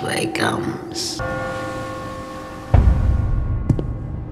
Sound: bell tolling; loud footsteps

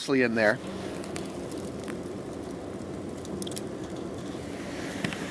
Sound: fire crackling

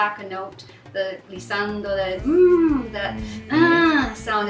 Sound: humming

